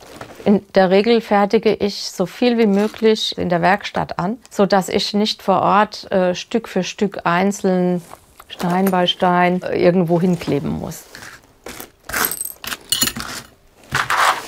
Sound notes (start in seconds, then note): 12.2 clatter